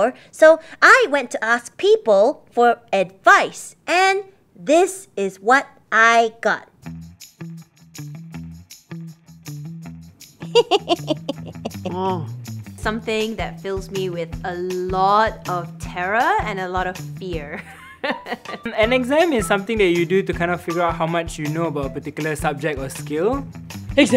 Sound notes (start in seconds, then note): 10.4 laughs; 17.4 laughs